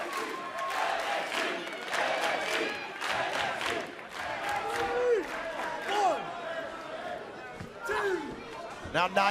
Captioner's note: crowd cheering